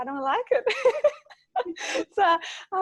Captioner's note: laughing